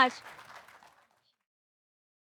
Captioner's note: audience applauding